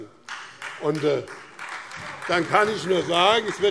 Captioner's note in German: Demonstrativer Beifall Freie Demokraten, vereinzelt SPD und AfD